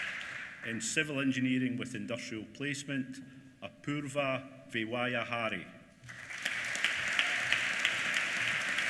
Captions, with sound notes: In Civil Engineering with Industrial Placement, Apurva Vyawahare. (APPLAUSE)